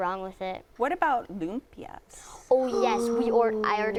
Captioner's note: gasp